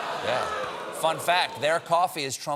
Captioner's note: audience reacts